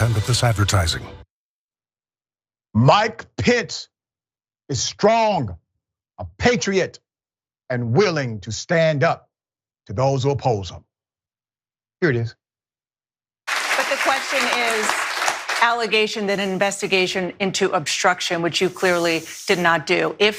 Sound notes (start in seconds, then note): 13.4 applause